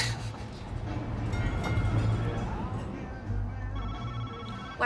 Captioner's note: phone ringing